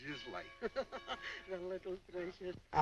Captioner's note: laughing